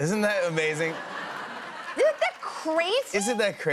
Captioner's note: laughter